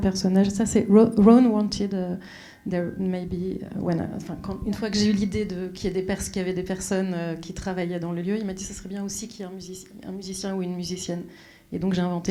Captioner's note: speaking French; speaking French